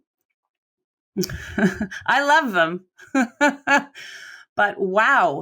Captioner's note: laughs